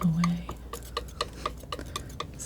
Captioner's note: tapping